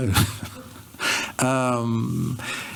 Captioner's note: chuckles